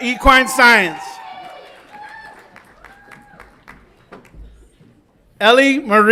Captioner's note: audience applauds and cheers